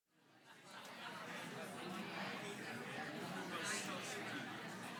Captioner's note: audience chatting